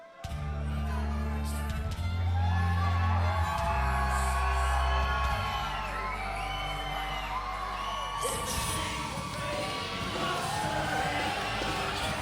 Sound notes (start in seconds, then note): 0.1 soft music; 2.8 audience cheering